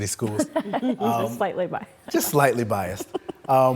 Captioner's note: laughs